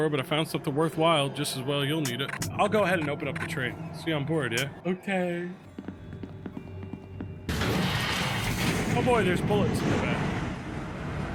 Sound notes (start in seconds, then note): 5.7 footsteps thudding; 6.0 train door slides shut